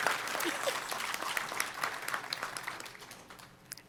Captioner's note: applause